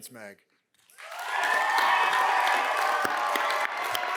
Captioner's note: cheers and applause